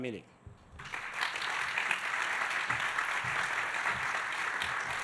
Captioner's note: audience applauding